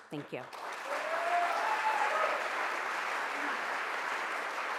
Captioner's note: audience applauding